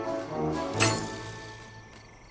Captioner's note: clang